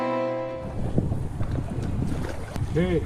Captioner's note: wind blowing